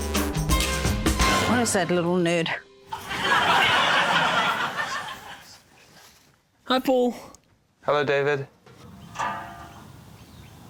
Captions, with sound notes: - Where is that little nerd? (LAUGHTER) - Hi, Paul. - Hello, David.